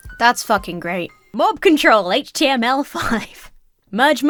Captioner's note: chuckles